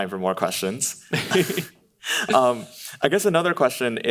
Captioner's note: laughing